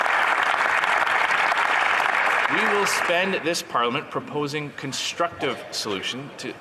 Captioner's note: some Applause